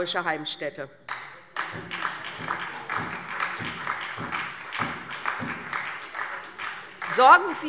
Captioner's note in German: Beifall SPD